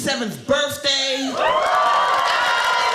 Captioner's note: audience cheering